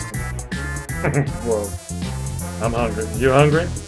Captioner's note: chuckles